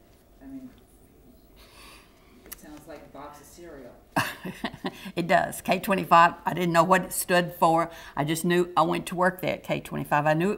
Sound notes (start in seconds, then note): 4.1 laughter